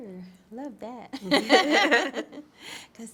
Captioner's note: laughter